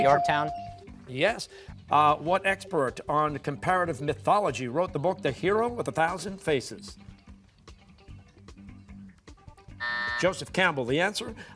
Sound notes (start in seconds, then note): 9.8 buzzer